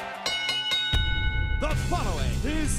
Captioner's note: bell rings